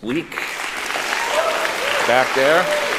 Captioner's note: applauding